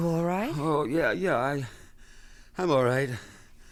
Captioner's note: groans